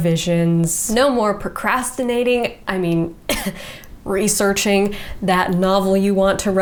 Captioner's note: coughs